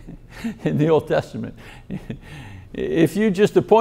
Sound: laughs

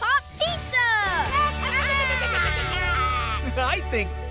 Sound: chattering

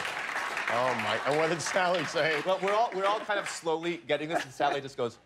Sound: laughter

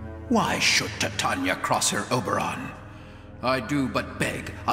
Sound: none

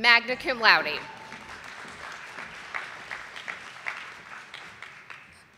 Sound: audience applauding

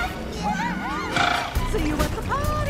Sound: all yelling

